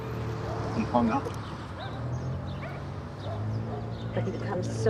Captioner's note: dogs barking in distance